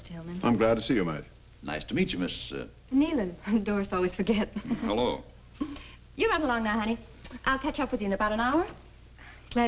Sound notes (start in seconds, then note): 4.3 chuckles; 4.3 women chuckle